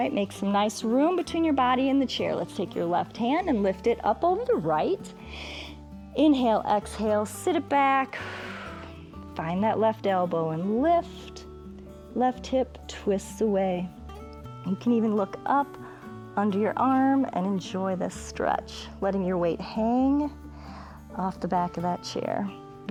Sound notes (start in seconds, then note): 5.4 inhales; 8.1 exhales